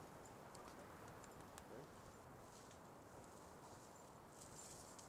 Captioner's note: leaves rustling